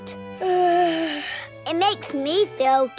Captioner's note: yawns